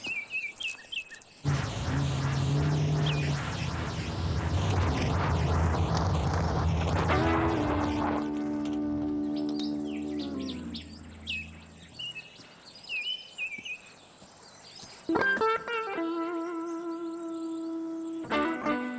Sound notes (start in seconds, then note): 8.2 light guitar music; 10.6 birds chirping